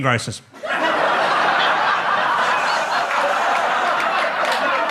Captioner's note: audience laughs